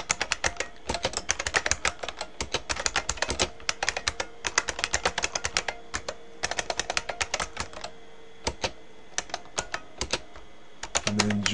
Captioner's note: typing